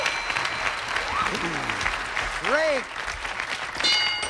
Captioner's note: audience applauding